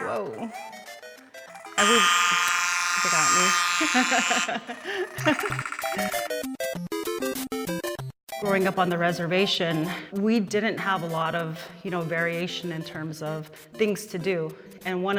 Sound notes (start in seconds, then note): 1.3 buzzer sounds; 4.7 laughs